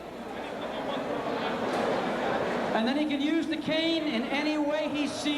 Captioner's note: crowd chatter